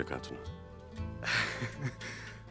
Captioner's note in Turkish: Gülme sesi